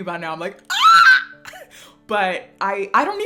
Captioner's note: screams